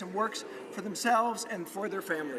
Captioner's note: none